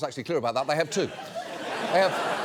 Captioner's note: audience laughs